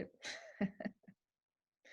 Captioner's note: laughter